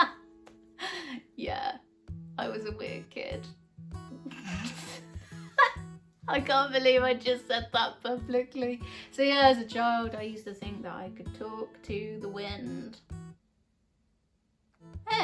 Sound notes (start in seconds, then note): 0.6 laughs; 5.2 laughs